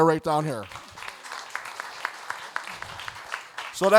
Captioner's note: audience applauding